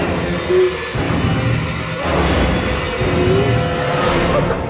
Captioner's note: menacing music; whimpering